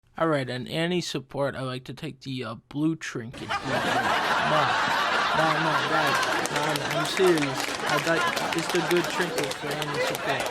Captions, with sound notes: All right, on Annie support I like to take the, uh, blue trinket. *hysterical laughter from studio audience* No- *laughter continues* Nah, no guys... Nah, I'm serious. I like- It's the good trinket for Annie support.